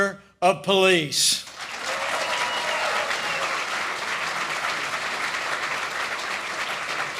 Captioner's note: applause